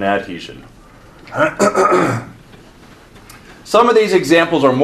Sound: clears throat

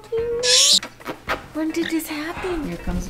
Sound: lips smacking

